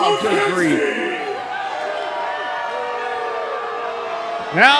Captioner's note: boo-ing